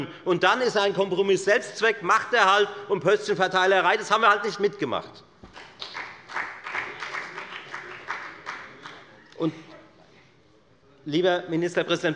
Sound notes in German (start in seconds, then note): 5.5 Beifall bei der FDP